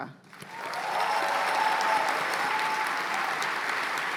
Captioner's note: cheers and applause